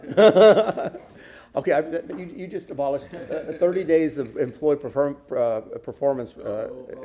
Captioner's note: laughter